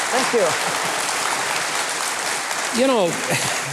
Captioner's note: audience applauding